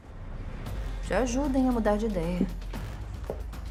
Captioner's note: chuckles